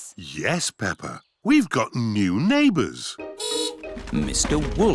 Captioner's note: horn beeps